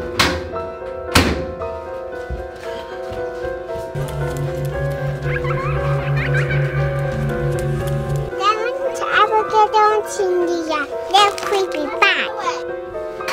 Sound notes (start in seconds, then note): 0.3 creepy music; 5.1 child laughing eerily